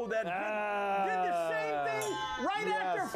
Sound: bell Rings

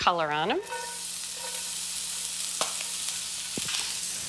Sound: sizzling

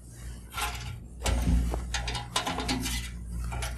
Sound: metallic sounds

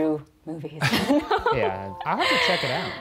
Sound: laughing

